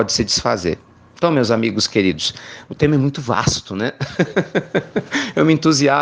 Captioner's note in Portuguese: risos